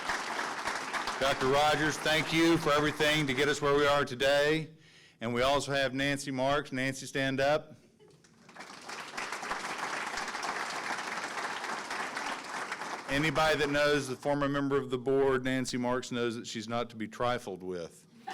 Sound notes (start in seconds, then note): 8.3 audience clapping